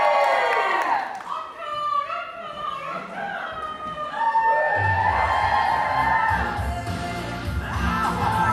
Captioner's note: audience cheers; audience cheers